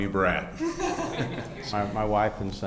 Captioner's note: audience laughs